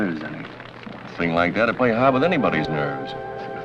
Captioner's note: applause